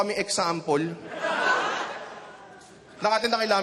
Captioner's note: laughter